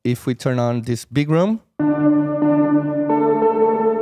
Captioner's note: reverb